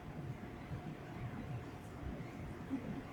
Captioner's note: none